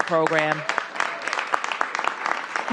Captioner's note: applause